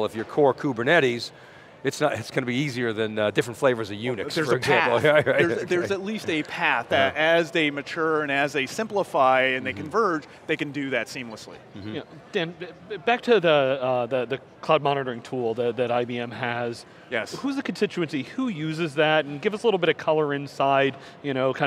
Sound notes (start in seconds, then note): 4.5 laughs